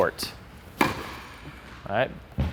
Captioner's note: ball thumps